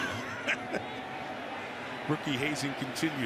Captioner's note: chuckles